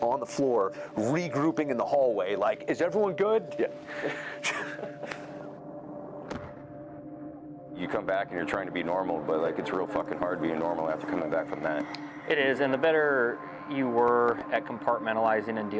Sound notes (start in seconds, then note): 3.9 laughs; 5.1 somber music; 6.3 blast cracks